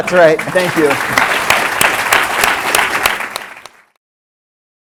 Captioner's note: applause